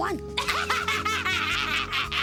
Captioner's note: laughing